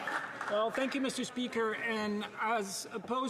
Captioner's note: some Applause